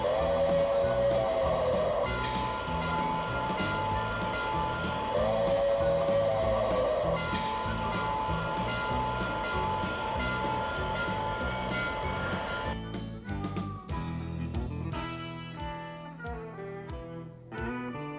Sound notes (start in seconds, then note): 1.8 train whistle blows; 6.9 train whistle blows; 10.3 upbeat music